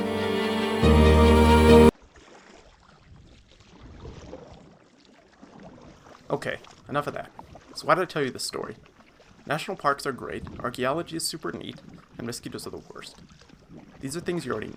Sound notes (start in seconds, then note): 0.0 musical crescendo; 2.0 sound of paddles moving through water